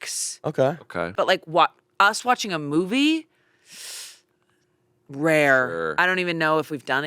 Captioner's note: sucks in